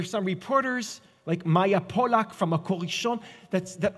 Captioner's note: Hebrew